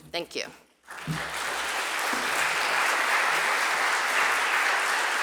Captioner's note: audience applauding